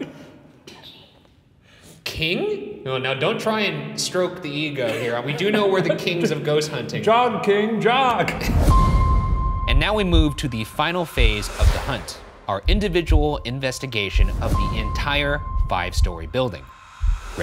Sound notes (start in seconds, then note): 1.2 automated Voice; 8.9 tense music